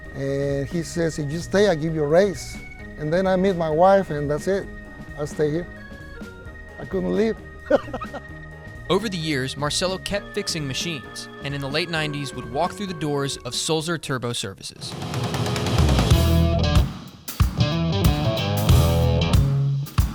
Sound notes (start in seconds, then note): 7.6 laughs; 14.8 rock music